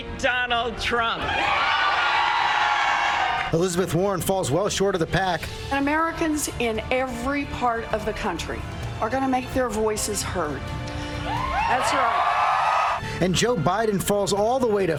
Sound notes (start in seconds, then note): 4.5 cheers and applause